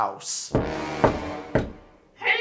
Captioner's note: knocking and sinister music